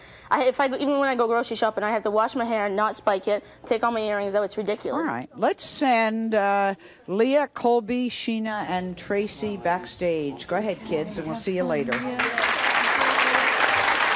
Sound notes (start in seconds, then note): 11.9 applause